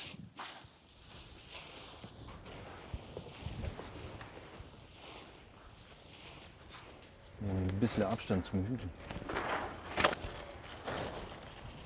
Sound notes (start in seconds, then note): 1.2 birdsong; 9.1 quiet clanging